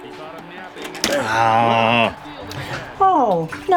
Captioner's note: groaning